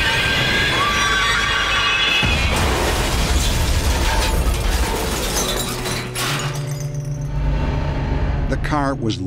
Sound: brakes screeching; woman shrieking

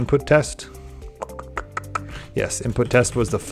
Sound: clicks teeth

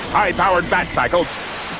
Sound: tv static

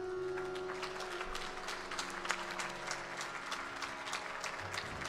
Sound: audience applauding

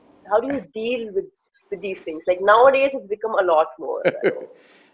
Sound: Sadhguru laughs

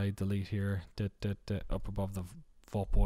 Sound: stutters

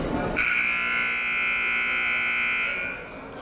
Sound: buzzer

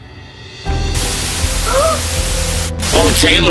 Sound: static sound

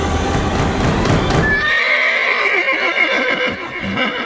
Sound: horse neighing

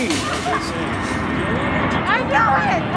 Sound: and airplane going; laughing

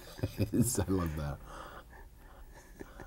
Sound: laughs; laughter

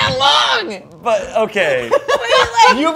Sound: laughing

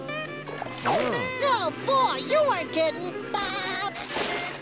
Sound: laughing

